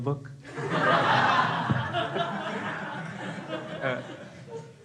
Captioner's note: crowd laughing